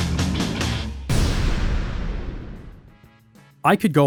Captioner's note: booming